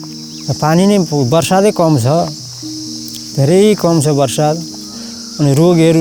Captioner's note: speaks in foreign language